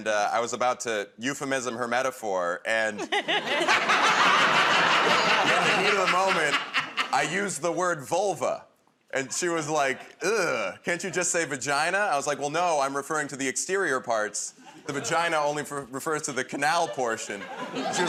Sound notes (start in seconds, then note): 2.9 laughter